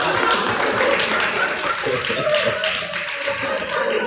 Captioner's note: applause